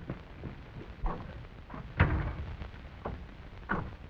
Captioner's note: door shuts